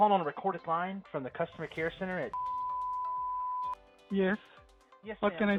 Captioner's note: beeps